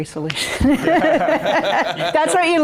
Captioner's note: group laughs